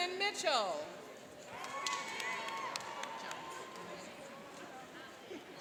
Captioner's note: cheering and applauding